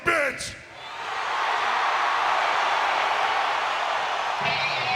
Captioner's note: audience cheering